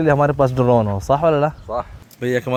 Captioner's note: Arabic